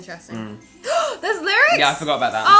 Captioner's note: gasps